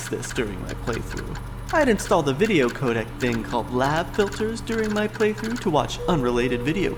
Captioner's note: hard drive clicking